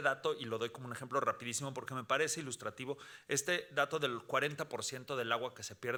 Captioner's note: speaking Spanish continues